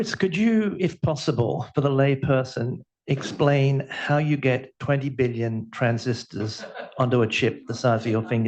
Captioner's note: laughter